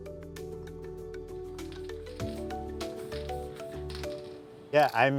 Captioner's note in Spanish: la pintura sisea Estoy pintando